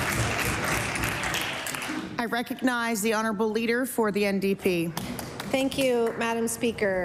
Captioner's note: applause